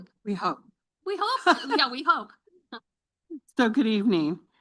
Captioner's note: chuckles